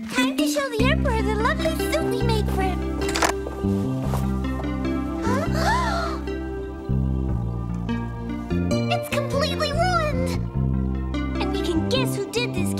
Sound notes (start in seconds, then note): 4.6 triplets gasp